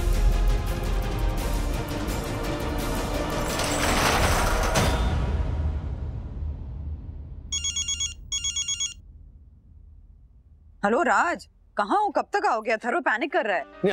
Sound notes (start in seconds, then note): 3.2 shutter closing; 7.5 phone ringing